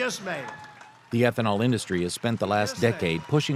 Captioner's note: applause